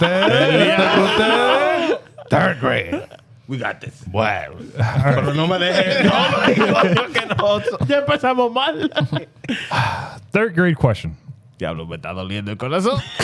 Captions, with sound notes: Third grade. We got this. Wow. Third grade question. (Speaking In Foreign Language)